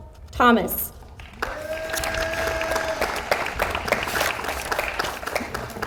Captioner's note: audience applauds